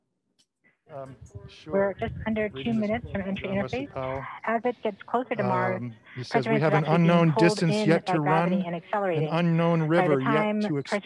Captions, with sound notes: - We're just under two minutes from entry interface as it gets closer to Mars (overlapping chatter)